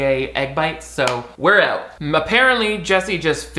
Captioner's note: claps